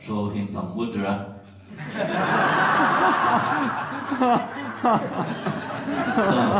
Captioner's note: laughters